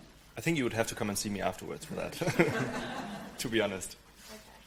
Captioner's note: laughs